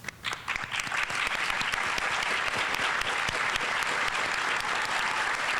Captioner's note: audience applauding